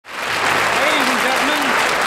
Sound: audience clapping

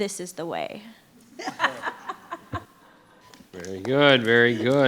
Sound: crowd chuckling

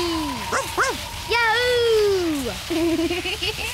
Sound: wind whistling; barks; giggles

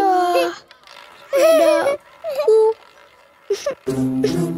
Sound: laughing

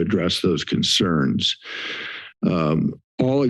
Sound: inhales

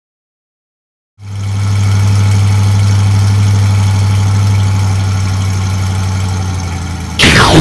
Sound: motor speeds up; explosion

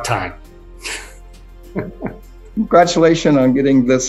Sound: laughing

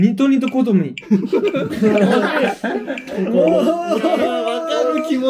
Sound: laughing

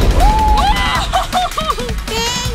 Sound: women laughing

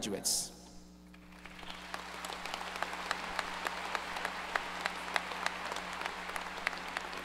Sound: applause

